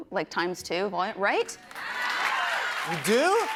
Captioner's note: applause